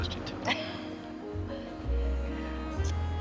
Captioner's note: laughs